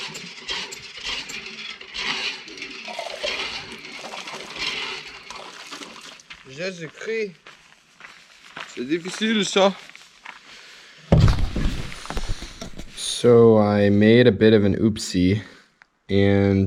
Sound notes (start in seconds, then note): 2.8 water flowing